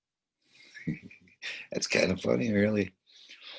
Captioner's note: laughs